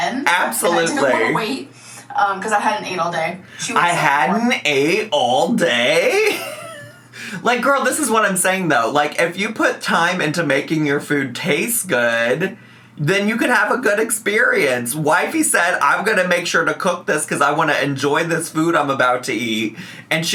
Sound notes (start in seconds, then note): 6.0 laughs